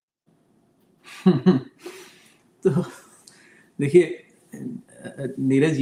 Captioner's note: laughter